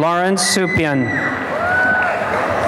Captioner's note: cheering and applause